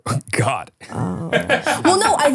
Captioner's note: laughing